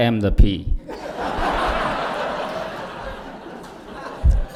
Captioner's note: laughter